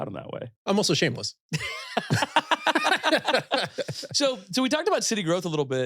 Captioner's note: both laughing